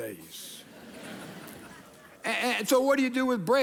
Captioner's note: audience laughing